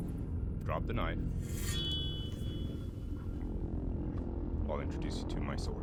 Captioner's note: blade scraps